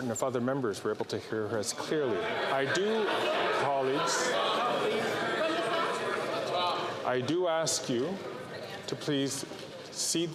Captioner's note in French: voix de l'interprète